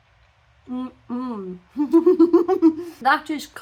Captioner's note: happy mouth noises; laughing